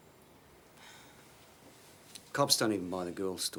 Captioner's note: Jodie sighs